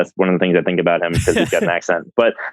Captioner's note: laughs